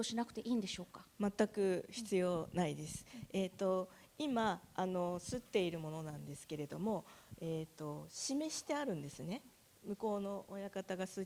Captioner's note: speaking japanese